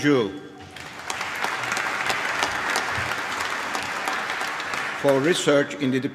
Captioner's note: applause